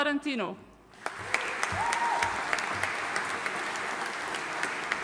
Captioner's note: audience applauding